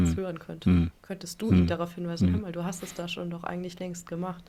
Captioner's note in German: räuspern